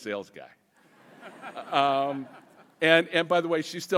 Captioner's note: audience laughing